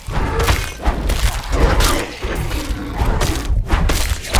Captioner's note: impacts crunching